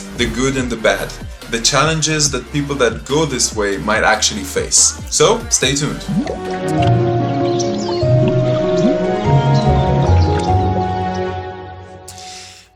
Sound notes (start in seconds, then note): 6.7 birds chirping; 6.7 peaceful music